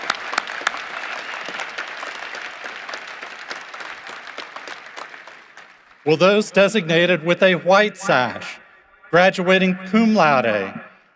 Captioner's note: cheering and applause